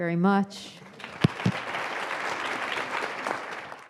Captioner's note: crowd applauds